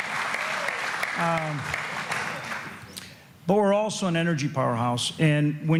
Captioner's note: applause